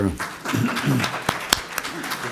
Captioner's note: applause